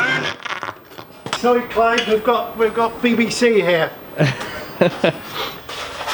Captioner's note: they laugh